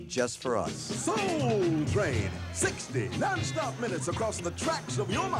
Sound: voiceover

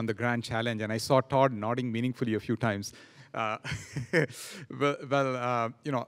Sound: laughing

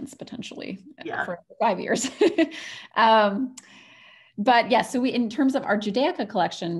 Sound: laughs

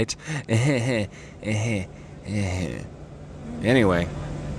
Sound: laughs awkwardly

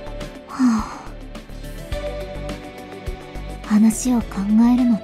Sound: sigh

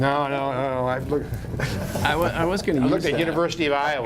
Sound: laughter

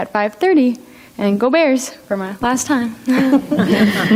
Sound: group laughs; laughs

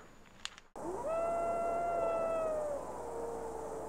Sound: coyote yelping

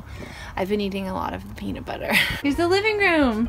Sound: laughs

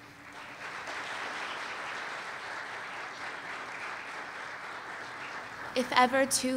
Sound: applause

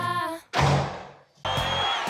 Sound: door slams

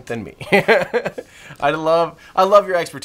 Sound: laughing

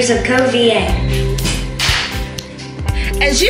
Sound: clap

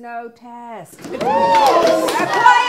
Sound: students cheer

